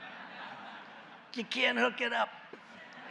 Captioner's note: laughter and applause; laughter